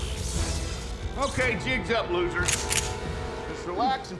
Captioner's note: short-circuiting, crackling; rifle clicks